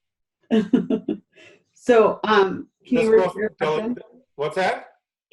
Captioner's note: chuckles